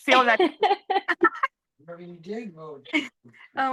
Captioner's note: both laughing